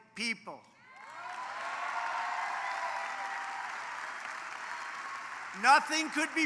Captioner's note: applause